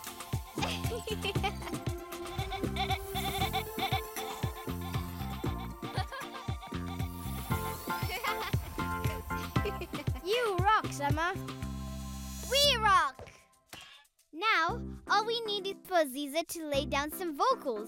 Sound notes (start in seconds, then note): 0.2 laughing; 2.1 upbeat music; 7.1 laughing